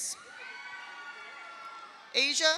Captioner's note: audience cheers; audience applauds